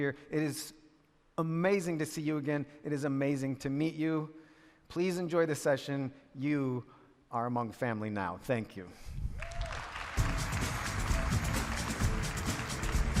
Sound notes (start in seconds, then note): 9.3 audience cheering; 10.1 upbeat music